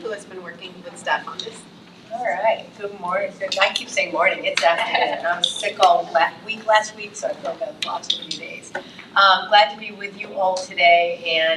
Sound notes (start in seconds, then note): 4.7 trustee laughs